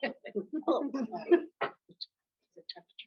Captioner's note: chuckles